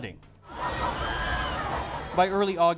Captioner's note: people screaming